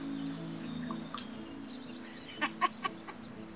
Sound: laughing

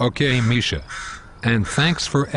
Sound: bird crowing

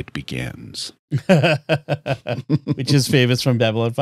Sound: laughter

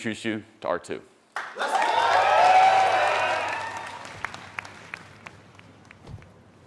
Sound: attendees cheering and applauding

